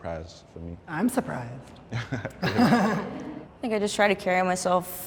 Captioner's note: chuckles